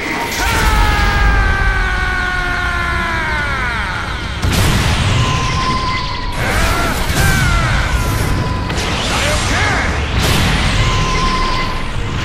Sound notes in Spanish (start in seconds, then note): 0.3 Gritos; 5.2 Grita